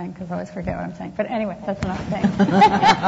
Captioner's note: laughs